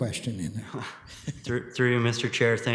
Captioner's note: chuckles